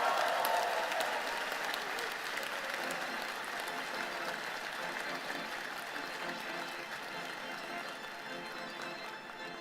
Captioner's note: applause